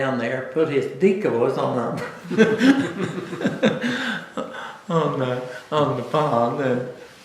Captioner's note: laughter